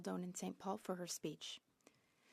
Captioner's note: speaking French